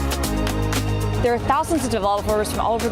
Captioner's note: applause